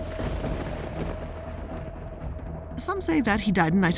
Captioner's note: lightning and thunder roars